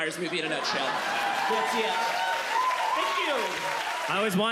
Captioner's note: audience claps, cheers